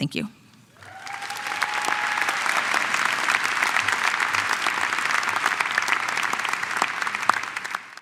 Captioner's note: applause